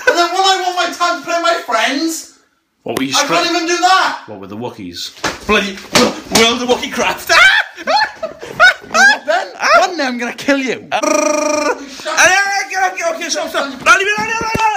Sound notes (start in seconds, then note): 7.5 girly scream followed by laughter; 11.0 Wookie noise